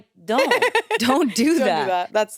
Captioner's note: laughs